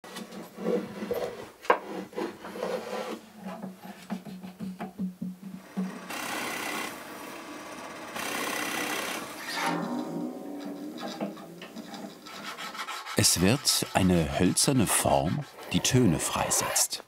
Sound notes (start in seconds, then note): 5.6 drilling noises